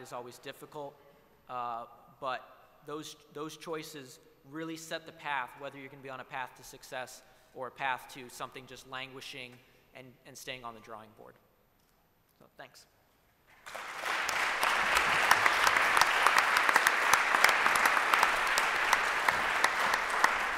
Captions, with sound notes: is always difficult. But those choices really set the path whether you can be on a path to success, or a path to something just languishing and staying on the drawing board. So, thanks. [APPLAUSE]